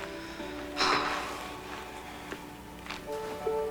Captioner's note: sigh